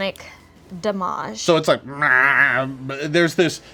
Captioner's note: whines